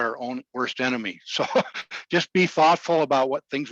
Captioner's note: laughing